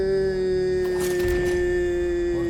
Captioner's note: ominous music playing; Arjun grunts